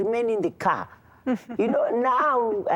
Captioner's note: giggling